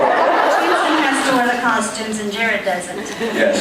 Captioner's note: laughs